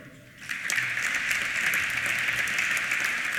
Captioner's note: applause